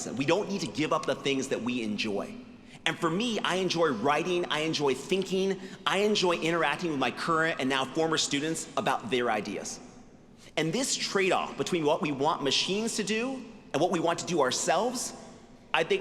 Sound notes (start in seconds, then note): none